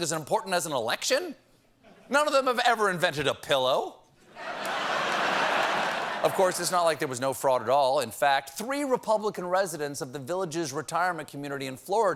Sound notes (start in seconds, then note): 4.3 laughter